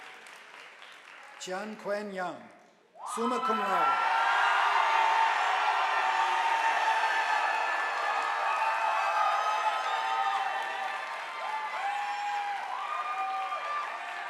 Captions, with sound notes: Xiang Kwen Yeung summa cum laude, (audience applauding)